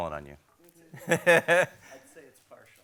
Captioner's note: laughs